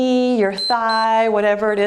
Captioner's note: timer beeps